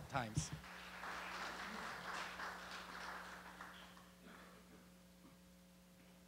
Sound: <i>Applause</i>

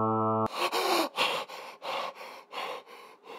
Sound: gasping for air

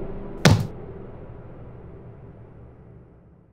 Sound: banging

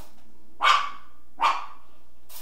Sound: dog Barking

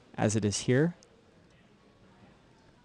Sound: pause; recorded sound being played back

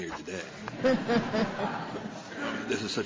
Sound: laughter

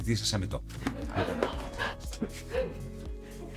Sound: laughs

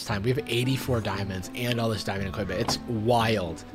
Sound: none

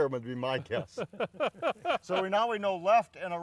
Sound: laughing

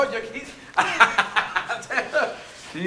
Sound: laughing

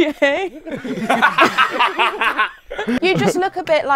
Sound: people laughing

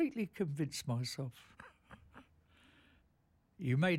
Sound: laughs

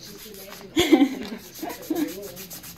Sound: laughs

